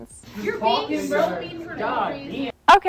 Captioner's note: students arguing